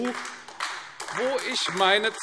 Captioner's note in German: Beifall AfD